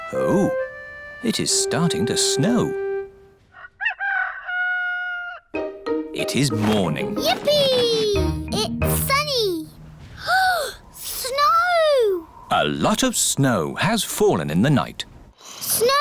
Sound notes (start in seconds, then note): 3.5 rooster crowing; 10.1 gasps